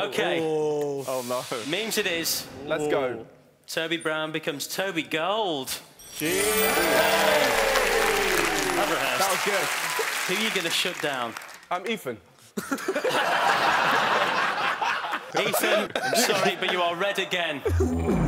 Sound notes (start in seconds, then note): 5.9 chiming; 6.2 cheering; 12.6 laughing